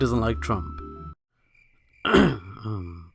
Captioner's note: crickets